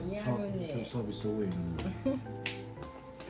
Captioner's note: 狂親加拍手